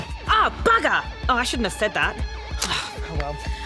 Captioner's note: sighs